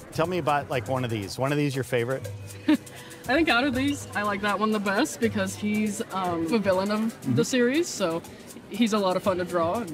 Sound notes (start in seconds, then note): 2.5 chuckles